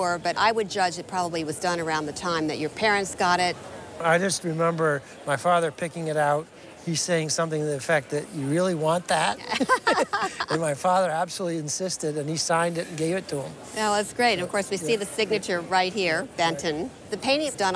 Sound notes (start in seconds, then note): 9.4 both chuckling